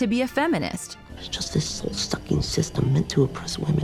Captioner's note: angrily whispering